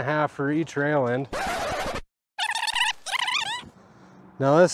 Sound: tape rewinds

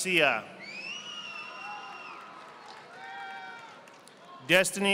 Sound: audience applauding

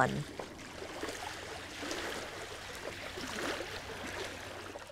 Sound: water lapping rocks

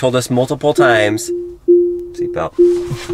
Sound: car chiming

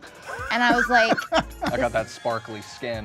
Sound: host laughing

